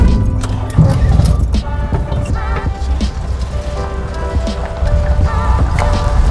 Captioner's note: bus door clanks; bus engine roaring; upbeat music